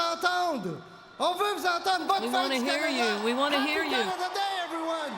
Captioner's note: applause